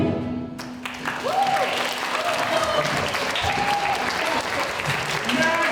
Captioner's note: applause